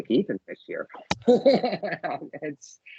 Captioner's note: laughing